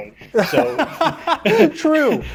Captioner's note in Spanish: risas